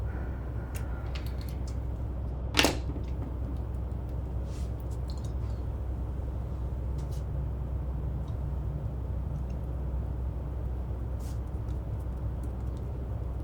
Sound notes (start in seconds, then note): 2.7 objects rattling; 9.0 air conditioner humming continues